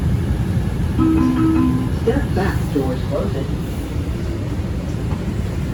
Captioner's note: chime